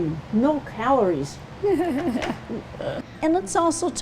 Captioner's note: laughs